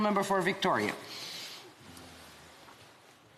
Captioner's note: speaking French